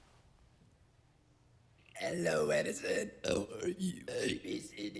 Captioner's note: burp-talking